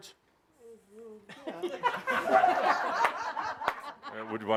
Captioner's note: laughter